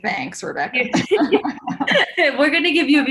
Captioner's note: laughter